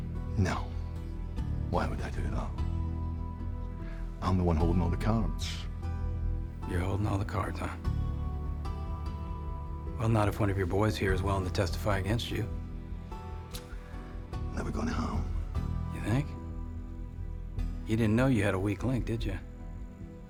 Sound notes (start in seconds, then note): 0.2 scottish accent; 14.1 scottish accent